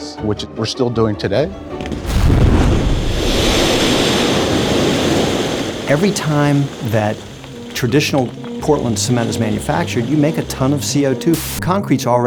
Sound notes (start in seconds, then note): 1.6 blast; 11.3 static